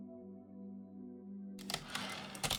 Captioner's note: typewriter return slide